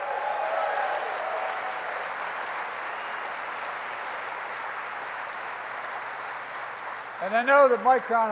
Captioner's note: applause